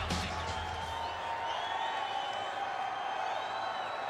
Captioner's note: crowd cheering